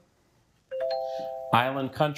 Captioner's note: bell dings